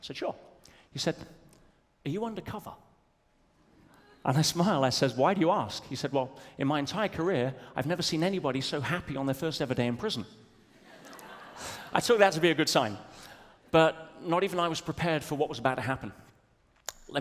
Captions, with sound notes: Said, "Sure." He said, "Are you undercover?" And I smiled. I said, "Why do you ask?" He said, "Well, in my entire career, "I've never seen anybody so happy "on their first ever day in prison." (audience laughs) I took that to be a good sign. But not even I was prepared for what was about to happen.